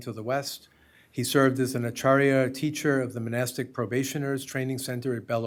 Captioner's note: hindi